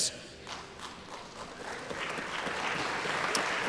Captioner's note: applause